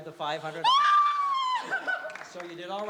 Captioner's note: screams